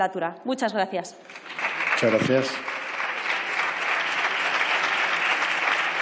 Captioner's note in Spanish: Aplausos